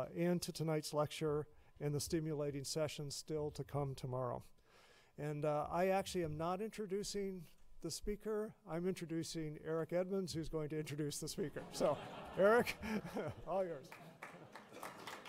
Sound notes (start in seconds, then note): 11.6 laughing; 13.8 applause